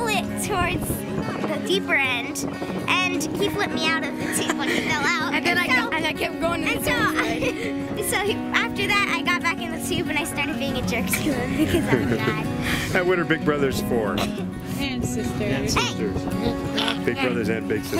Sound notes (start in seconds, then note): 6.9 laughs; 13.6 voiceover